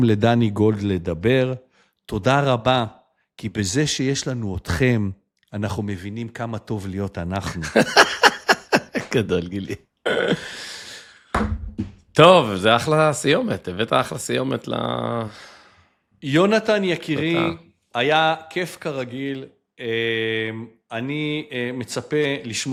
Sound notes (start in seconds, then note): 7.6 laughter; 10.1 clears throat